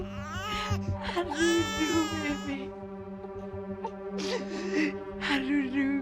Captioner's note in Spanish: Canta una nana entre sollozos; Llanto del bebé